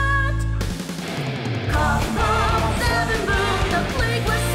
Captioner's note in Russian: Подражание производимым больными звукам